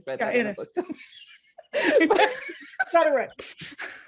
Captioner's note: laughing